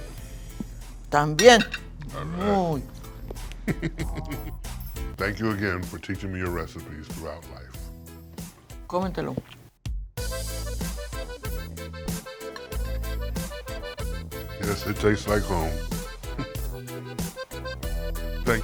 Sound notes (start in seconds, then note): 3.5 laughs